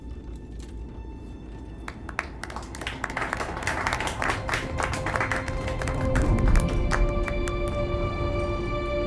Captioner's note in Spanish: aplaudiendo